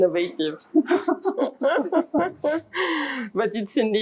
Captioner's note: laughing